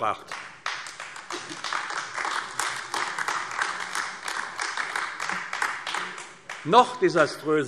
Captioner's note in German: Beifall AfD